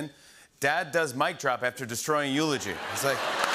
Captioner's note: applause; laughter